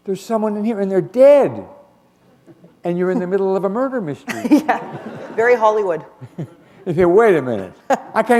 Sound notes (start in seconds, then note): 4.2 laughter